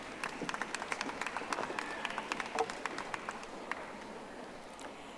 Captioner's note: audience applauding